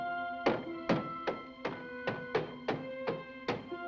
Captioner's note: banging